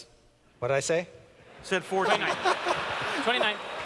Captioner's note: laughter